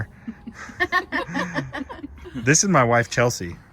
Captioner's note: ladies laughing